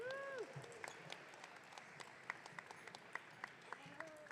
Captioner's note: audience cheering